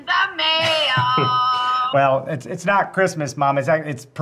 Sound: chuckles

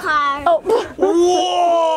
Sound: laughs

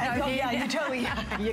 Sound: laughter

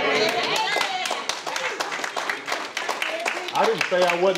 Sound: crowd clapping

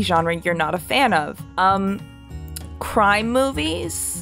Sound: clicks tongue

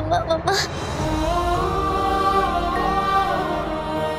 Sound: emotional vocalising

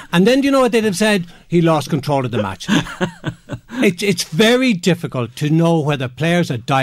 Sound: chuckle

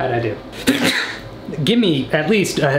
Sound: man sneezes

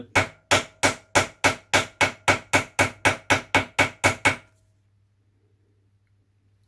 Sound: hammering

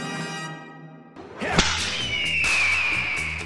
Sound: whip cracking; eagle screeching

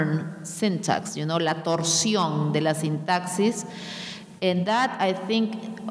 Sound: speaking in a foreign language

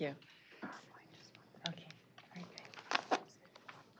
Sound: indistinct chatter

